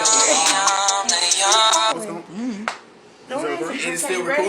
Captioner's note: cell phone ringing